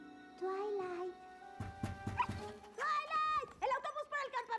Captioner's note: knock at door